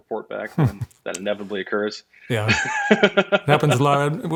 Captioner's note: laughing